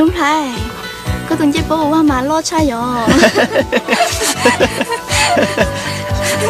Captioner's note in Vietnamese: tiếng cười